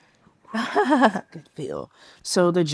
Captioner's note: participant laughs